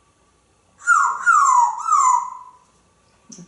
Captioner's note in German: whistling